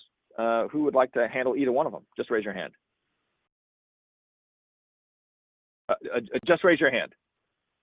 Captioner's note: silence